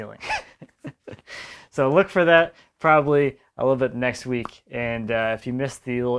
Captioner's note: laughs